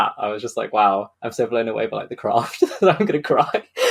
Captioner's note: laughs